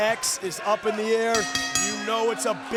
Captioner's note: bell rings